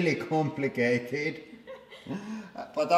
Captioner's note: chuckles; laughs